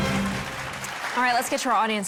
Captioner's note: audience clapping